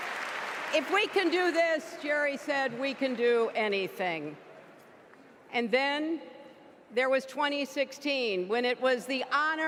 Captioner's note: applause